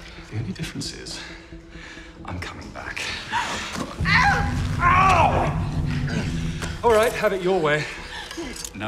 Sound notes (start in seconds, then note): 3.9 groans